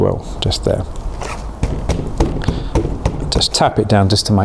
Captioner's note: seed tray banging